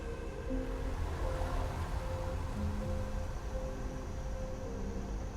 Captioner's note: car engines roaring